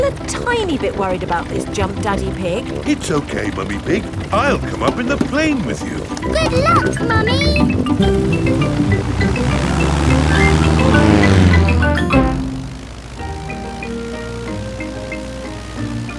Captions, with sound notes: I'm still a tiny bit worried about this jump, Daddy Pig. It's okay, Mummy Pig, I'll come up in the plane with you. Good luck, Mummy! (PLANE ENGINE REVVING)